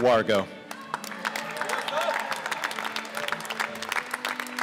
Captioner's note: applause